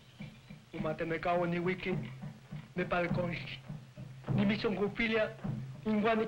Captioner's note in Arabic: كاهن قبلي يتحدث باللغة الأم